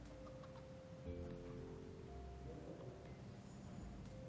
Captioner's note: chickens clucking